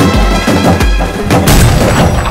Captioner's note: cracker explodes